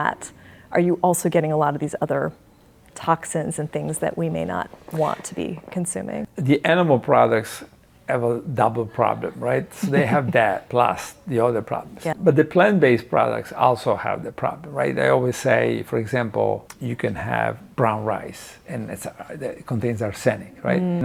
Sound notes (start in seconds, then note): 9.7 laughing